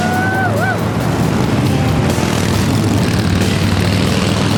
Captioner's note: motorcycles rev